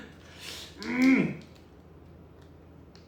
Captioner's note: grunting